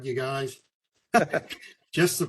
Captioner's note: laugh